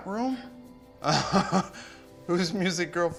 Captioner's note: chuckling